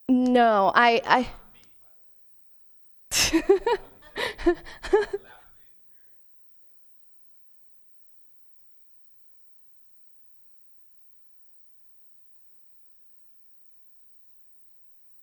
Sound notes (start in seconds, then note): 3.1 laughs